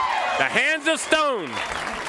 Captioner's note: bell ringing